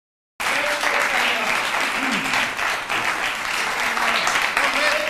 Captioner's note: applause